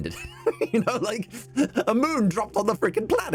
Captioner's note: laughing